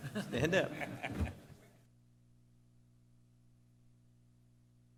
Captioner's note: laughter